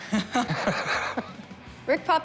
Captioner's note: both laugh